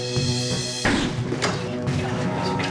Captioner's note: gunshot